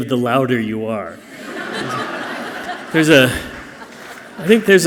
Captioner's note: audience laughing softly